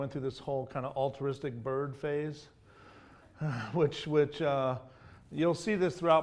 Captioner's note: sighs